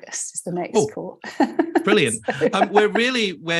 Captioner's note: laughs